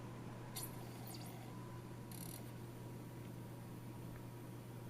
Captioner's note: disc spins up